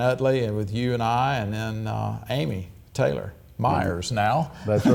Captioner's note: chuckles